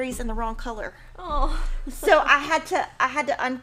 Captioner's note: sighs